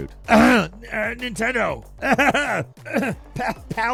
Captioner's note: mock coughs